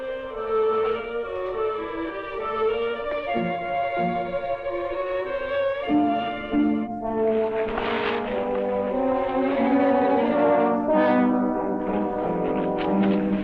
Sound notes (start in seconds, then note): 6.4 bushes rustling; 9.5 tense orchestral music continues